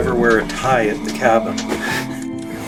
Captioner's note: laughs